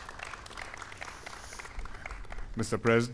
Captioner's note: applause